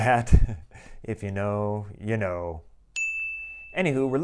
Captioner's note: chime